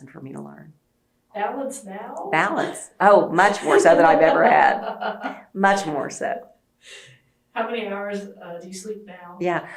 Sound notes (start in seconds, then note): 6.8 laughs